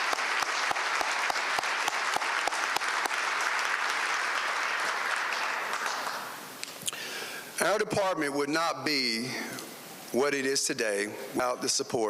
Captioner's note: applause